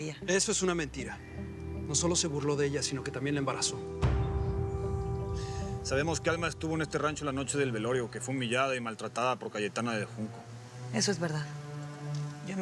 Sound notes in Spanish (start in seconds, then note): none